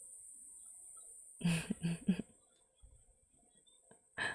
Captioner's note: chuckles